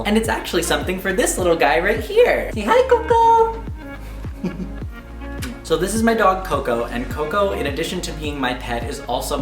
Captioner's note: kisses